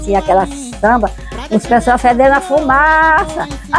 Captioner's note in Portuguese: risos